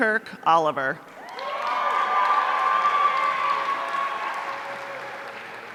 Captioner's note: audience cheering